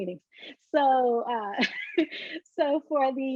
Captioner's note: chuckles